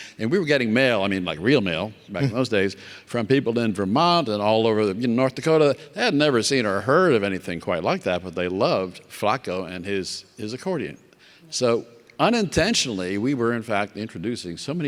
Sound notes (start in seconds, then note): none